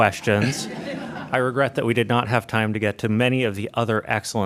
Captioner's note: laughter